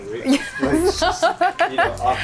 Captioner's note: laughing